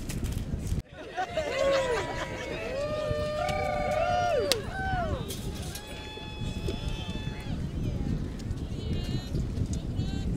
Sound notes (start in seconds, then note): 0.8 crowd laughs and cheers